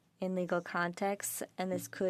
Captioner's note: speaking French